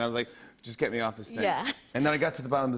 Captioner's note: chuckles